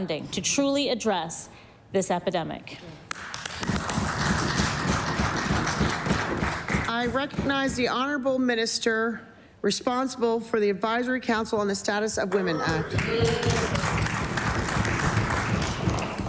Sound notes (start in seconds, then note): 9.3 some Applause